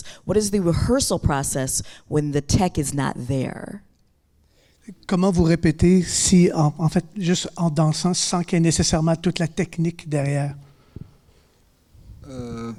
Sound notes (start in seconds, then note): 4.9 speaking in French